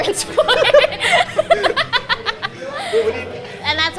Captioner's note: both laughing